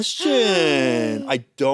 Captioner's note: gasps